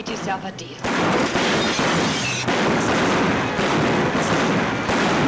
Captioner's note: guns bang